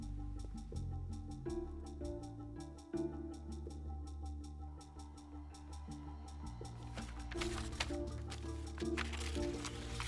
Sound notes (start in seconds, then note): none